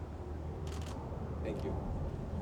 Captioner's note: camera clicks